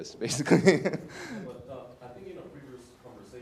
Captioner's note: laugh